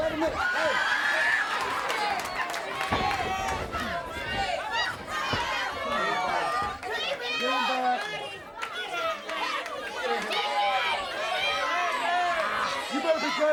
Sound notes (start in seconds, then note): 0.0 crowd chatter; 2.5 crowd chatter